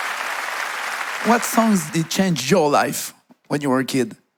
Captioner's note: audience applauding